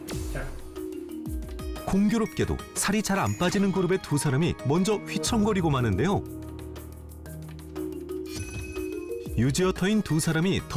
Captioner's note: voiceover